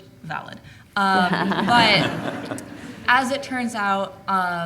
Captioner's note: laughing